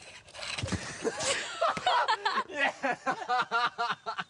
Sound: laughter

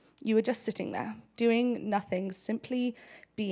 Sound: none

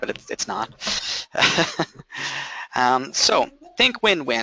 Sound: laughing

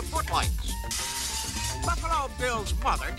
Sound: glass breaks

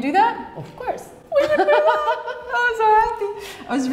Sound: laughing

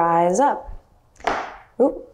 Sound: floor creaks loudly

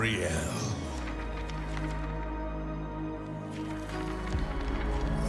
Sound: pages rustling

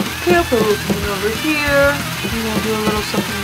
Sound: rock music; mutters

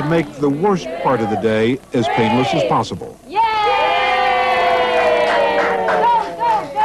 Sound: cheering

